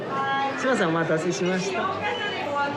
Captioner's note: speaking Japanese